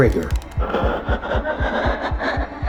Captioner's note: static, increasing sound